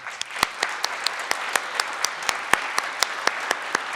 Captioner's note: audience applauds